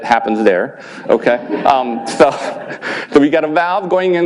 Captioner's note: laughing